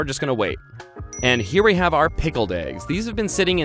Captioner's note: dings